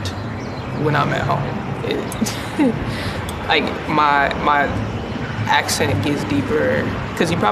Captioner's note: chuckle